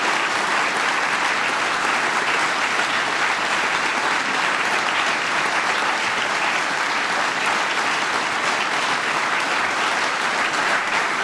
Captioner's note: applause